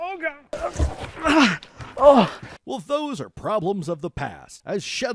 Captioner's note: grunts of suffering